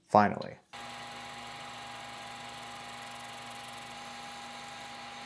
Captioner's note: machine whirring